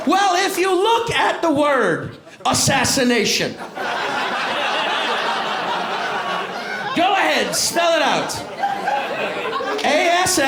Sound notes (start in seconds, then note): 0.0 cheers and applause; 3.6 laughter